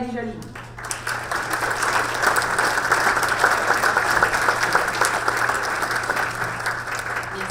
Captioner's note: audience applause